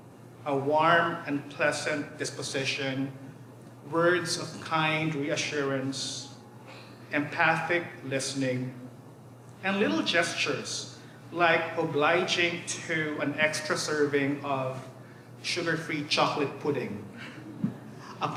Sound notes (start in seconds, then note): none